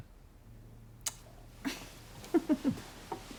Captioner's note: chuckles